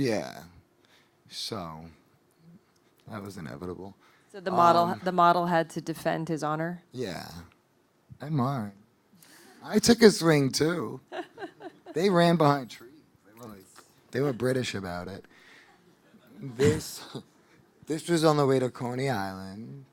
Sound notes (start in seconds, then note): 15.8 audience laughing